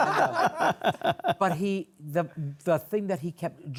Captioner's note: laughter